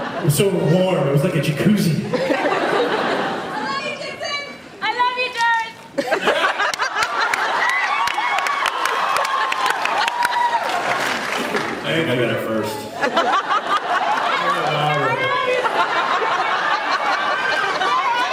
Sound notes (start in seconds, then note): 2.1 laughs; 6.0 laughs, cheers; 12.9 laughs